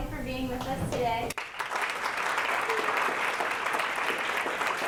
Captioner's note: applause